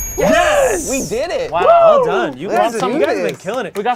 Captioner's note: group cheers; overlapping chattering